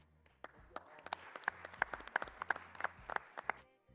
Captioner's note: applause